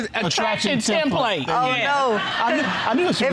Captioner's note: audience laughing